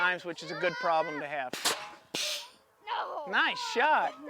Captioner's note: gourd gun shoots